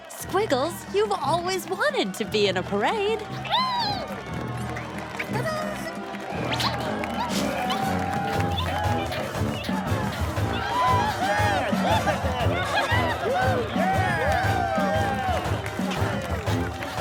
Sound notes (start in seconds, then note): 3.6 caterpillar noises